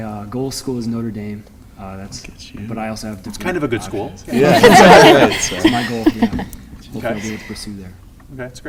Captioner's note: laughter